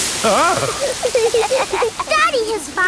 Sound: laughing

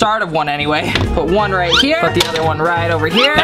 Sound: whistle sliding

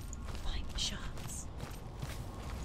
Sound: whispering; whisper

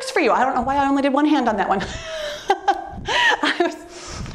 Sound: laughs

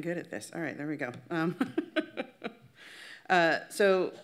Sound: laughs

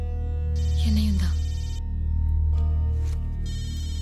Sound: phone ringing

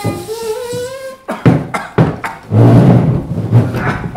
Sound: frrrrppt; caugh

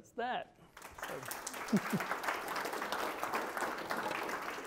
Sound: audience clapping

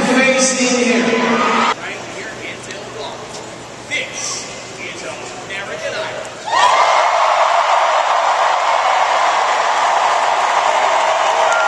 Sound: cheers, applause

